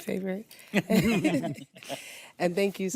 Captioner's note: all chuckle